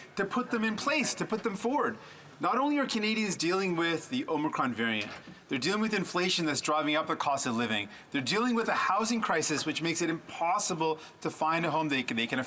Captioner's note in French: voix de l'interprète